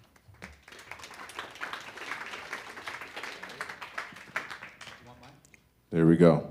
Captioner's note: audience applause